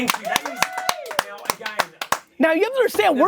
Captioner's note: everyone clapping